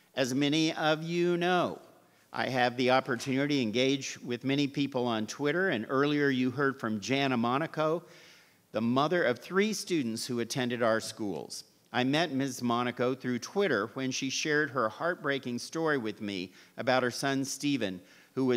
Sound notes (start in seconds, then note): none